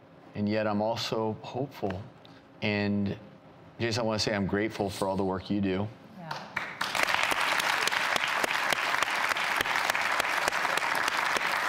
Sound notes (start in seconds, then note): 6.5 audience applauds